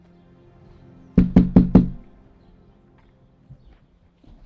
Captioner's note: Liz knocking